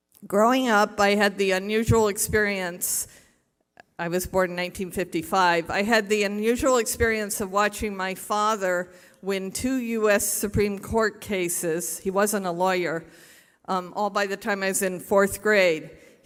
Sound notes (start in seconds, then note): none